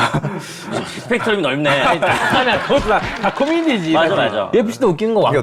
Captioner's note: laughing and then getting hit